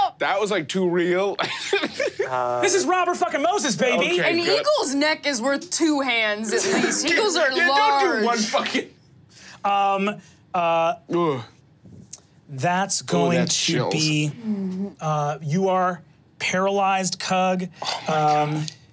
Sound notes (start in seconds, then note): 2.1 laughs; 11.6 groans